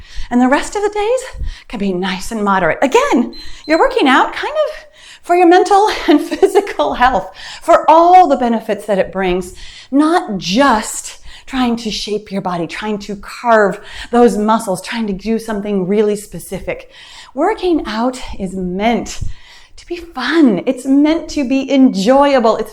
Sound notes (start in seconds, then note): 3.0 timer beeps